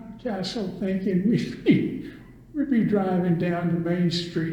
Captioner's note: laughs